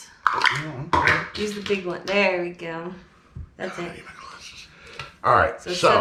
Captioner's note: quietly